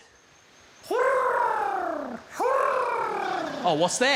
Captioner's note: guy mimics bird cooing